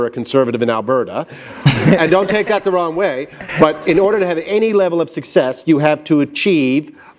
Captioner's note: laughter